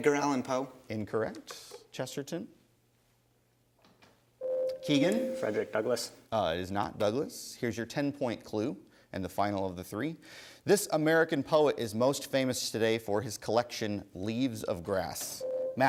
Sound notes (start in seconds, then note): 4.4 ding